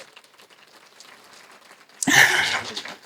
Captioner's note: applause